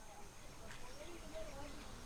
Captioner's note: indistinct chatter